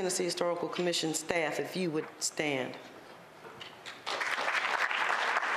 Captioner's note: applause